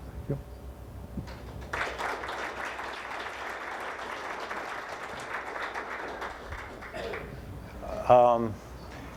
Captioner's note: applause